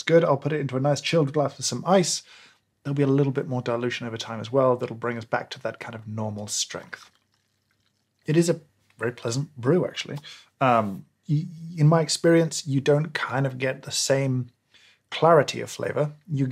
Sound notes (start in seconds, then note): 5.5 liquid pouring